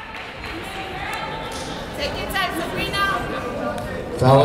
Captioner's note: chattering